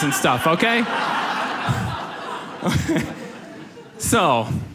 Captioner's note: audience laughs